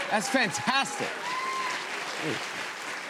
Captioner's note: cheers and applause